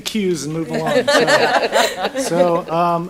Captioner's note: laughter